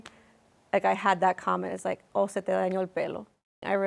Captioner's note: speaking Spanish